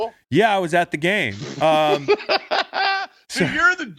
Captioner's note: laughing